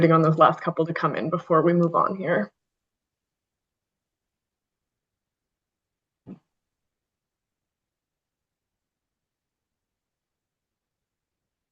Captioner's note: pause